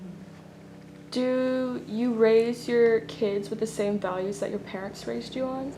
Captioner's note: none